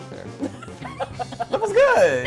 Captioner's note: laughing